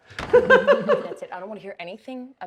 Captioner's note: both laugh